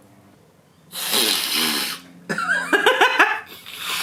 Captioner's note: sniffling; laughs